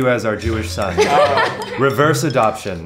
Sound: laughter

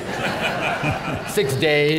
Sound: laughter

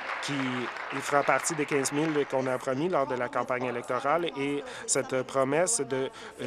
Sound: applause

